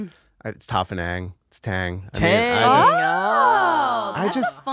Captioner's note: they exclaim